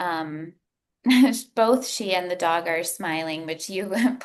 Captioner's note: chuckles